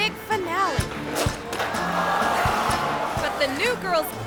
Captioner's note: audience gasps